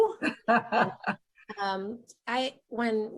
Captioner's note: laughing